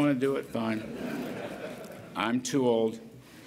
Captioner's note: laughter